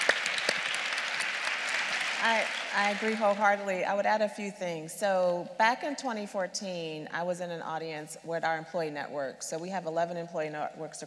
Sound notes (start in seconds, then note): 0.0 applause